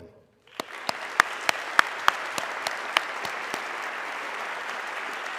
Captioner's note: audience clapping